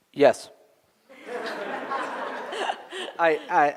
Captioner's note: laughter